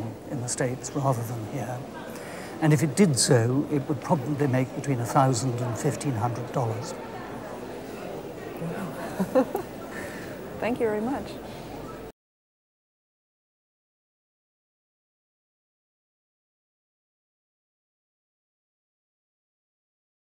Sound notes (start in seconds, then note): 8.6 laughs